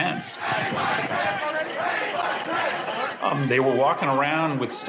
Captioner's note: writers chanting